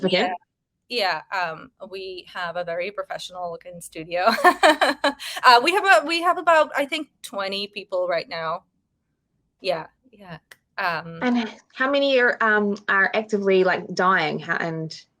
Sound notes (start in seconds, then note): 4.2 woman laughing